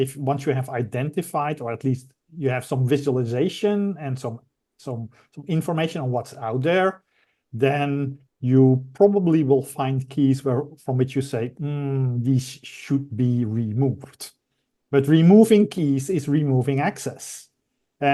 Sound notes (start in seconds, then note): 11.6 humming